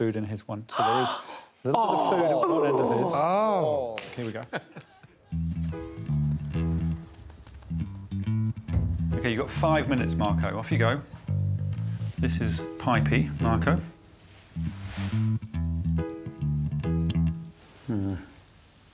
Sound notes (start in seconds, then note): 0.7 gasping; 5.4 upbeat music; 15.9 upbeat music